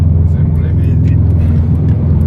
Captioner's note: noise of the tires rubbing